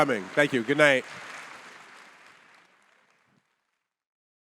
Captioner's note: audience applauding